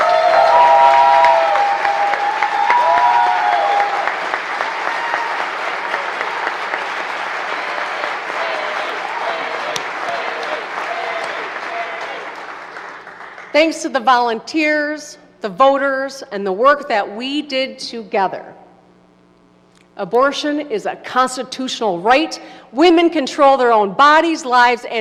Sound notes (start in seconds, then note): 4.4 applause